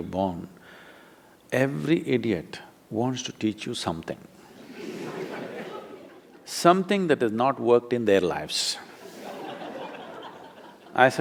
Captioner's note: laughter